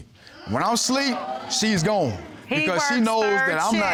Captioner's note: audience gasps